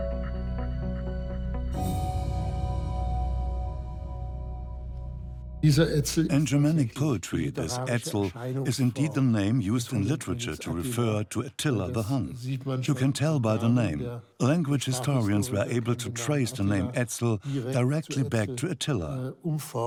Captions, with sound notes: (in German) (dubbed in English) In Germanic poetry, Etzel is the name used to refer to Attila the Hun. You can tell by the name. Language historians were able to trace the name Etzel directly back to Attila.